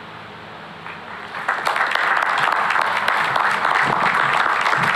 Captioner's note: applause